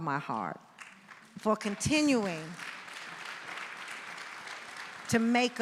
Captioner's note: audience applauding